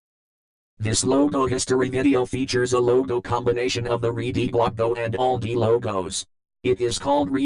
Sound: silence; in a computer-generated voice

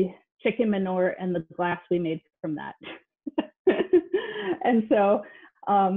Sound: laughs

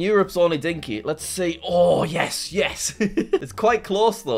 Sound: laughs

